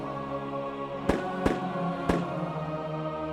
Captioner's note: gun shots